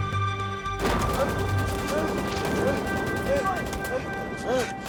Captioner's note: dramatic music; soldier groaning